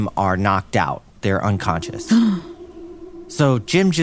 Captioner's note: gasps